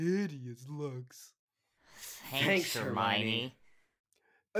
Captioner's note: sarcastically